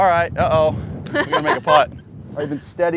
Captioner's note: laughs